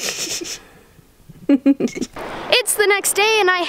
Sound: laughing

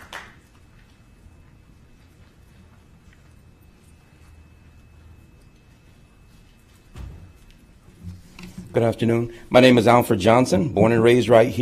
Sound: applause

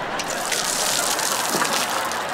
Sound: water splashing

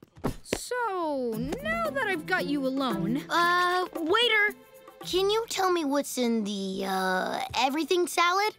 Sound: none

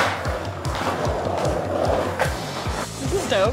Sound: skateboards rolling

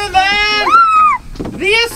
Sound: assistant cheering

